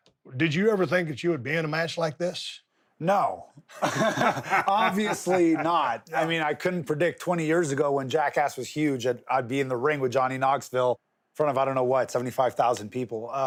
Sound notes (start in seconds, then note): 3.7 Steve laughing